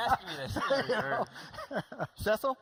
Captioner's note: laughing